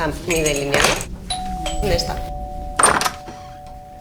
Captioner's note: doorbell ringing